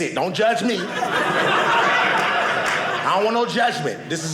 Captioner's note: audience laughing